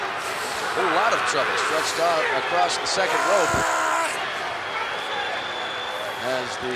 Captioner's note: applause